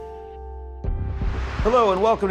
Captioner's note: air whooshes